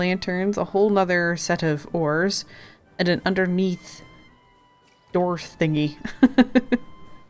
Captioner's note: laughs